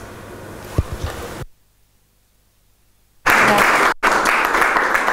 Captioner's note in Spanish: aplausos